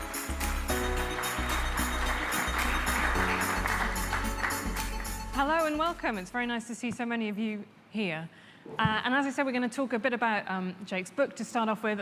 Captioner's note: applause